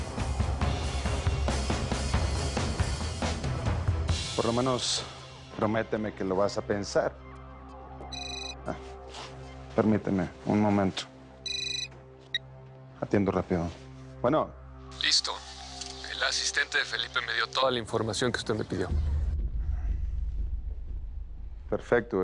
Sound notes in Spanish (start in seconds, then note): 8.1 Suena un celular; 11.4 Bip